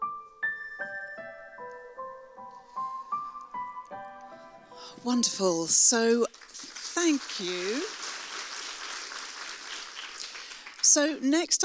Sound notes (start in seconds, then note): 8.0 audience applauds